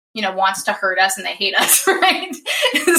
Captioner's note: laughs